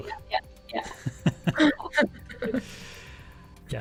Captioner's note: laughter